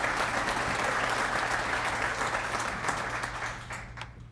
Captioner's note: applause